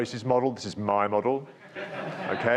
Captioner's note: speaks faintly